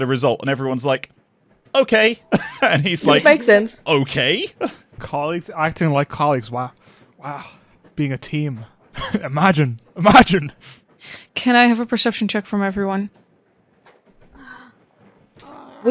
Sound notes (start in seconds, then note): 2.2 chuckles; 9.0 laughing